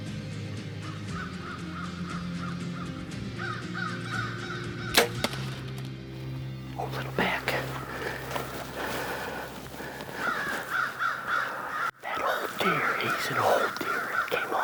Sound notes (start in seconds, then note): 4.9 bowstring thuds